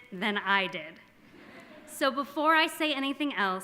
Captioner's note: audience laughing